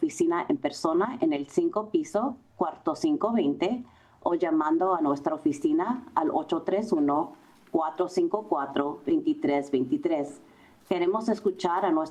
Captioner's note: Spanish